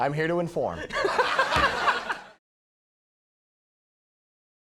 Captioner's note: Conan laughs